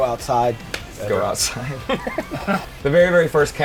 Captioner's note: laughs